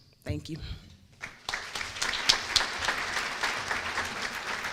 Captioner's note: applause